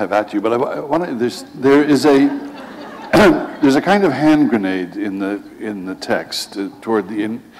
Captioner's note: laughter